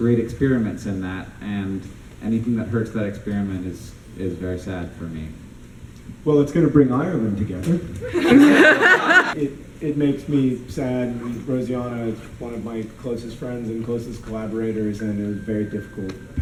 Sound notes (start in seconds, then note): 8.0 laughter